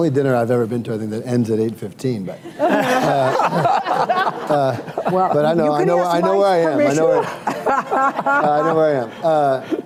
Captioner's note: laughter